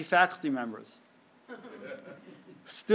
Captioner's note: laughter